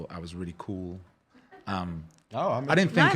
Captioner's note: laughing